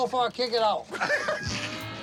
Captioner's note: laughs